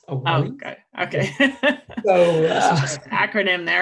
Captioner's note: laughing